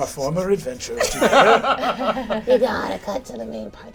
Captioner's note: all laugh